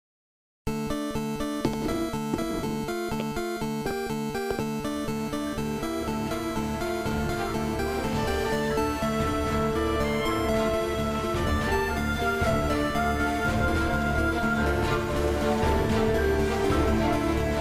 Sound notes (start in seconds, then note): 1.1 classic Music Plays; 2.4 footsteps; 5.9 music Crescendos